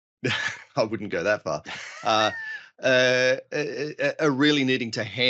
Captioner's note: laughs